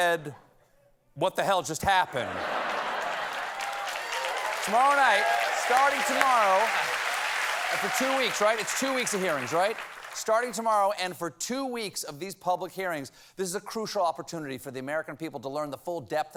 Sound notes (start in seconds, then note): 2.1 laughter; 2.4 applause